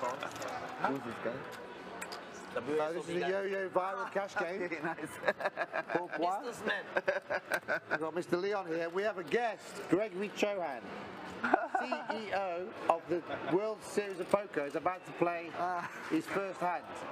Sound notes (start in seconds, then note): 5.2 laughs; 6.9 laughs